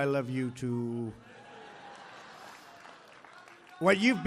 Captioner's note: applause